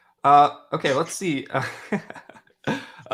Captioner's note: laughs